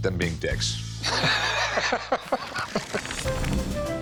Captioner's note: both laugh